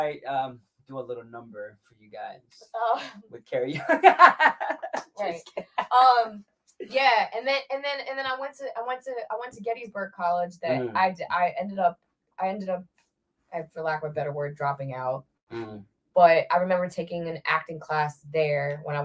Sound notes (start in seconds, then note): 3.6 laughs